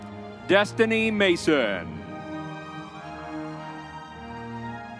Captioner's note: crowd cheering